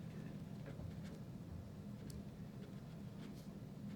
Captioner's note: pen writing